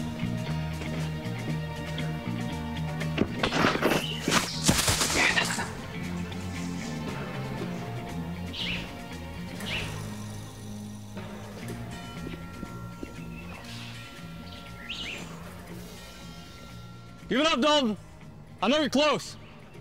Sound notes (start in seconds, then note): 1.5 suspenseful Western music continues; 3.1 footsteps thudding; 8.6 birds chirping; 12.3 footsteps thudding